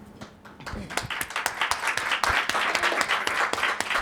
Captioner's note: audience applauds